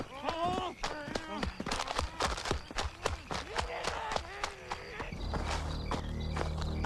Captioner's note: footsteps thumping hurriedly; crickets chirping